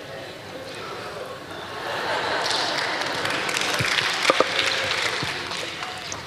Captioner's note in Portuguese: risos e aplausos da plateia